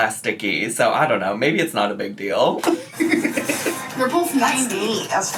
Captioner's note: laughs